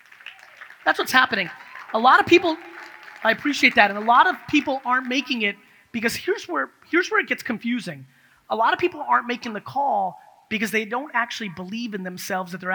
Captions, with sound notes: That's what's happening. (audience cheers) I appreciate that, and a lot of people aren't making it. Because here's where it gets confusing. A lot of people aren't making the call because they don't actually believe in themselves